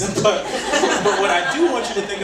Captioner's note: audience laughing; laughs